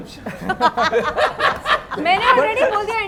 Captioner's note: laughs